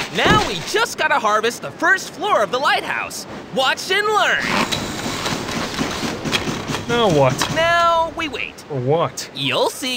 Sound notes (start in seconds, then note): 4.6 Burger bangs